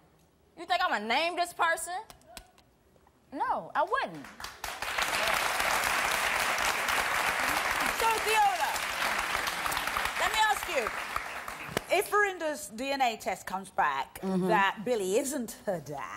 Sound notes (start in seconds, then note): 4.4 audience applause